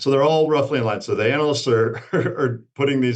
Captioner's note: laughs